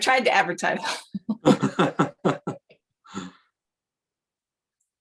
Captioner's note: laughter